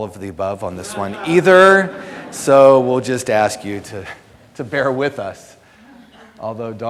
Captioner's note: audience laughter